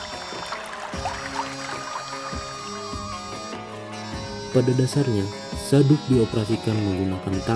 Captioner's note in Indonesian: Tepuk tangan